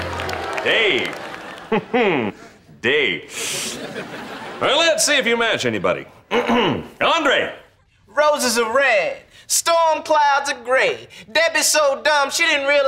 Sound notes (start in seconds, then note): 0.4 chuckles; 6.3 clearing throat